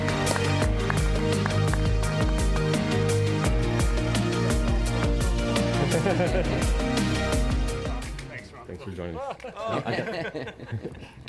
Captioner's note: applause